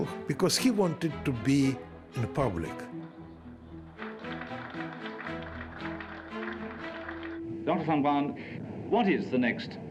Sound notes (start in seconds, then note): 3.8 applause